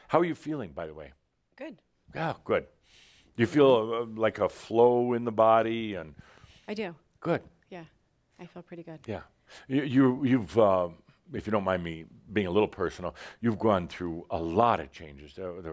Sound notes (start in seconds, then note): none